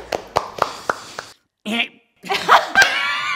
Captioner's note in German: Applaus; Schüchternes Räuspern, Gelächter